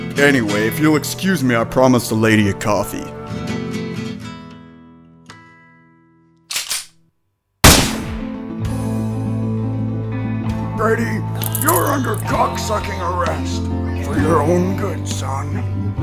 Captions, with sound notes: Anyway, if you'll excuse me; I promised a lady a coffee. [gun cocks] [gunshot] Freddy, you're under cock-sucking arrest... ...for your own good son.